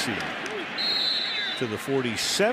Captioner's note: whistle blows